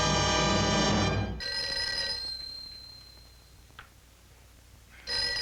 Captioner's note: phone ringing